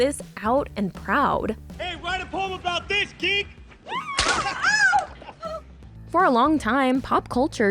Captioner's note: screaming